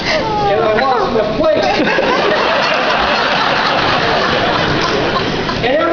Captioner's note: laughter